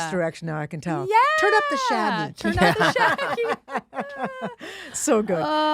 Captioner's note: laughs